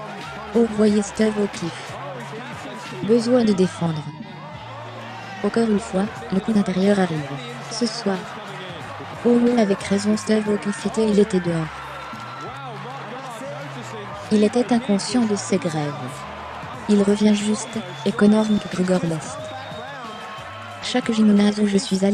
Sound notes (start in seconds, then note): 4.7 crowd cheering